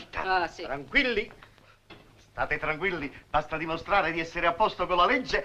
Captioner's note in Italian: sottovoce